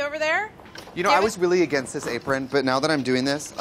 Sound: none

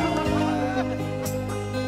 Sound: laughing

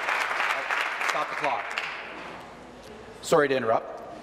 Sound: applause

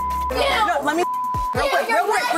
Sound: beep

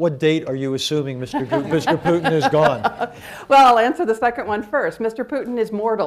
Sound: laughter

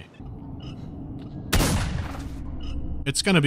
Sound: shotgun blast

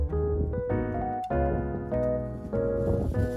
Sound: cool breeze blowing gently

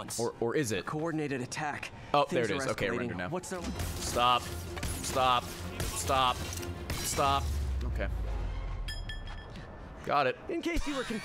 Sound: laughs

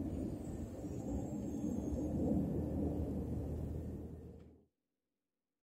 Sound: airplane passing overhead

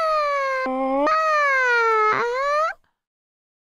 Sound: high-pitched screaming; low-pitched screaming

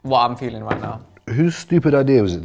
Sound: bottle thuds

